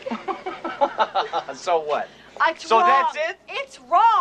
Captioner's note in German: Lachend